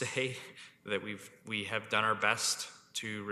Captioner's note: chuckles